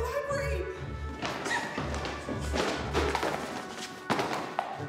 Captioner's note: books clattering